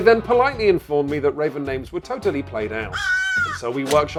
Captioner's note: bird caws